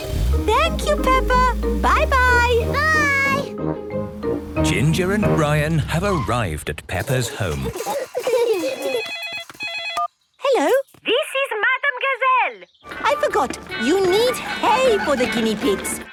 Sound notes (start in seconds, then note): 7.2 giggling; 8.5 phone ringing